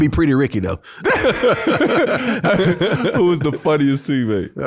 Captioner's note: everybody laughing